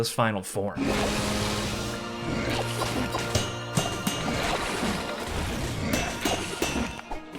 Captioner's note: intense music; weapons clanging